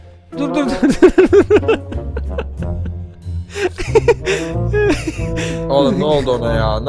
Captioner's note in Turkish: Kahkaha atarak